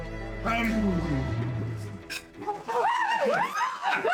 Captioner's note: laughing